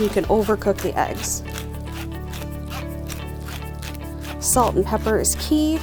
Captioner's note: pepper mill grinding